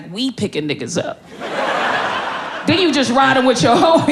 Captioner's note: crowd laughing